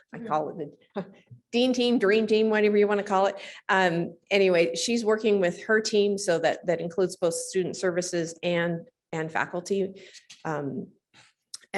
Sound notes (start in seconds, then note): none